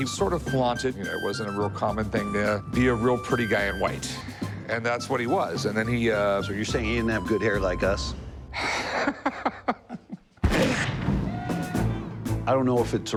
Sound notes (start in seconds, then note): 8.6 laughs; 10.4 gunfire